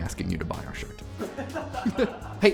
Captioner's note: laughter